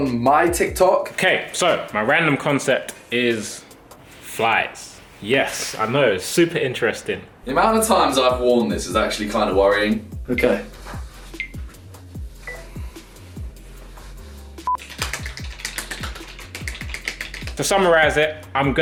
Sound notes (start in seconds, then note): 10.7 gentle music; 14.7 clapping faster